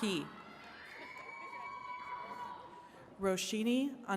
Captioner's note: attendees cheering